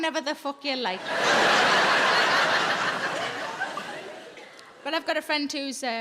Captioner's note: audience laughs